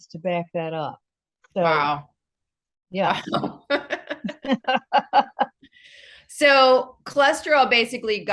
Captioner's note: both laugh